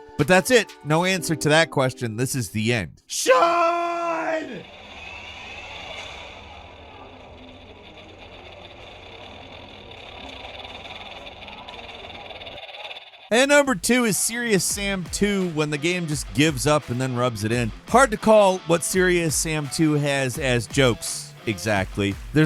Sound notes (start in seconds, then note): 3.2 voiceover; 4.6 ominous music